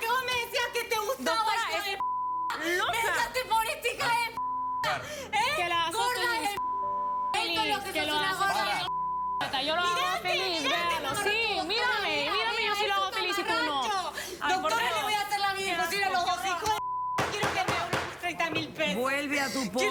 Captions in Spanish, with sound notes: >>ESTO ES LO QUE VOS ME DECÍAS QUE TE GUSTABA, HIJO [Bip] [Sollozos] ME DEJASTE POR ESTA [Bip] ¡GORDA DE M---! [Hablan al unísono]